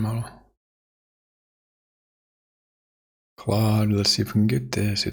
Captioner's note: blank Audio